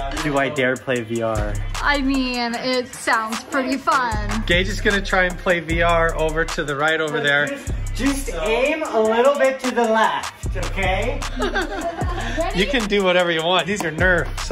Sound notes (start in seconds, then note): 11.2 laughing